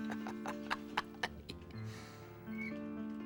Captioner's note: Rocky chuckles